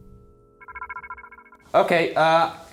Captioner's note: REM-Pod beeping